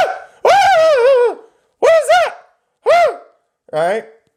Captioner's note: silly screaming